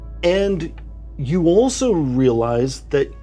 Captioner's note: none